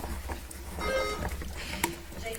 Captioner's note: bell ringing